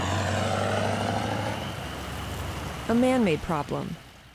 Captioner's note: vehicles swooshing